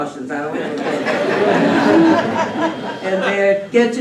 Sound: laughter

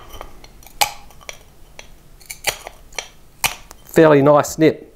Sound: snapping and crackling

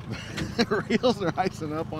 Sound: chuckling

